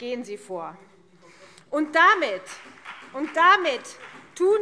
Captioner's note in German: Beifall BÜNDNIS 90/DIE GRÜNEN